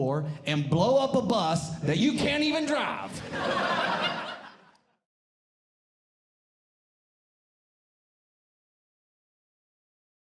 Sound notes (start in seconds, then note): 3.1 audience Laughing